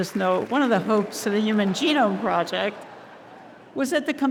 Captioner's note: audience laughing